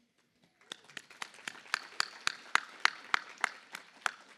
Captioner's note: applause